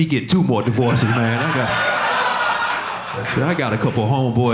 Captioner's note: audience laughing